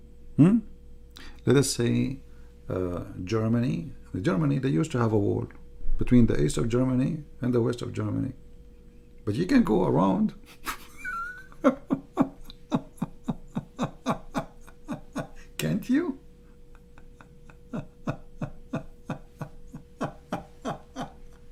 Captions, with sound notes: hmm katakanlah Jerman, Jerman, mereka pernah berperang antara timur Jerman dan barat Jerman tetapi anda boleh pergi berkeliling [Ketawa ] boleh tak awak [Ketawa]